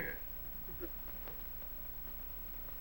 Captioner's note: chuckles